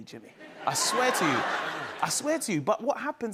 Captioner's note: laughter